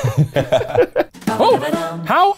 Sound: laughing

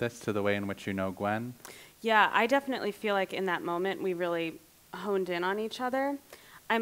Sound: inhale

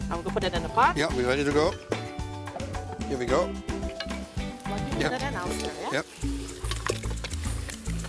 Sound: swishing

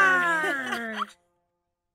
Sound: giggle

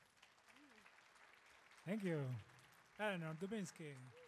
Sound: audience claps

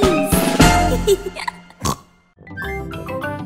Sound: laughing; snorts

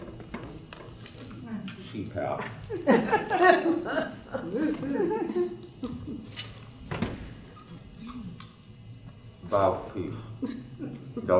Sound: quietly

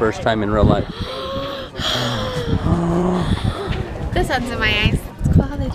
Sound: gasps mockingly

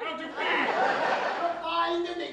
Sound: audience laughter

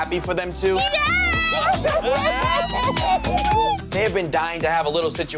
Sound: people cheering

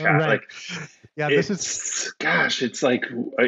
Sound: laughs

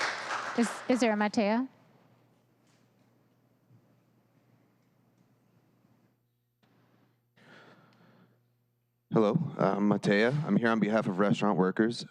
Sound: applause

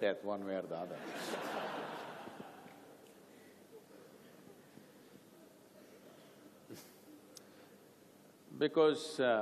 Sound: laughter

